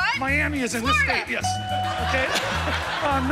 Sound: bell dings; laughter

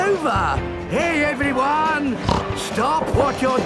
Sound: snorts

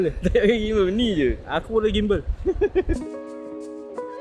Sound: laugh

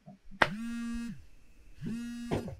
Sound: phone buzzes

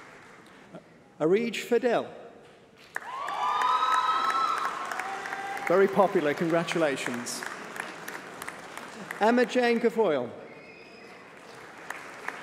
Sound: applause

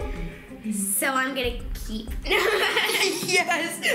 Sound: laughing

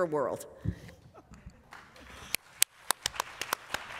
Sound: applause

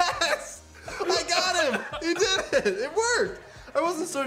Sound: coughs

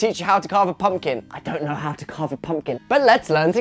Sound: whispering

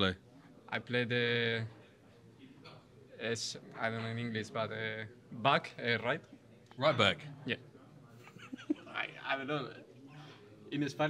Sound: laughs

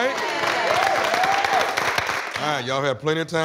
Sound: applause

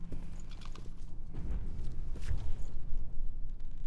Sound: distant thud

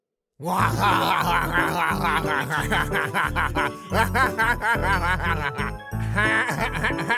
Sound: RALPH laughs

